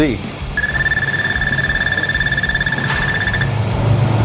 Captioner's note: rapid beeping